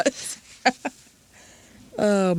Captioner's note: laughter